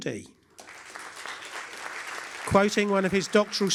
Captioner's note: applause